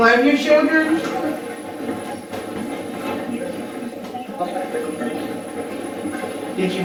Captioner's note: static playback transmitting